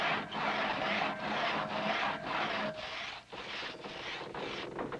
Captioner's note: loud sawing